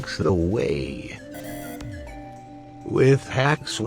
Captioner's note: 'Incorrect' sound